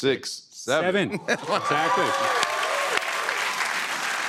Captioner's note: cheers and applause